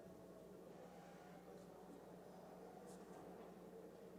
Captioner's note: hablando inglés